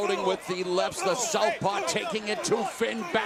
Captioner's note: crowd chatter